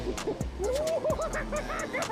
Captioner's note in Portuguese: bradando